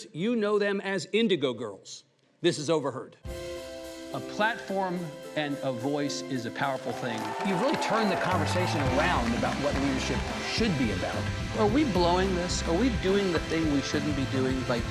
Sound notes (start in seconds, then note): 3.4 upbeat music; 7.3 audience cheers